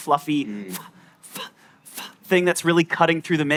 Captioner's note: vocalizes